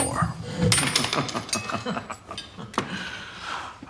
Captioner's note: laughs